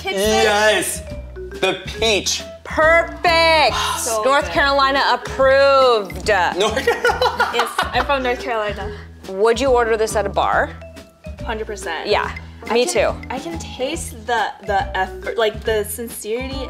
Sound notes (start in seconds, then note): 6.7 laughs